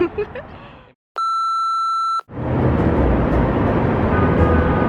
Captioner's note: high pitched beep